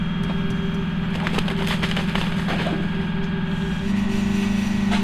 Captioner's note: wings flapping, drill rig running in distance